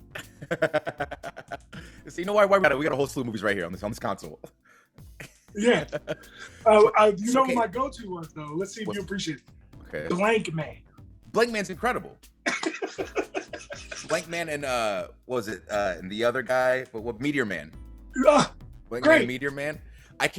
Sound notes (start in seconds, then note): 0.4 laugh; 12.5 laugh